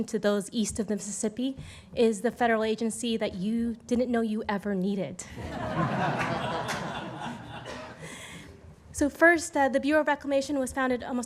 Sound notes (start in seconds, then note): 5.3 laughter